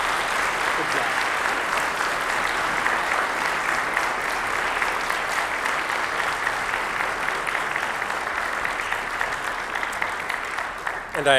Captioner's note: applause